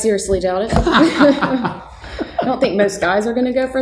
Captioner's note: laughing